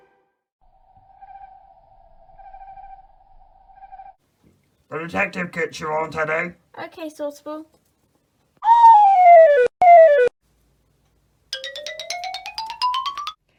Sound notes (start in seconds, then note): 0.2 owl calling; 8.6 slide whistle; 11.6 cartoon footsteps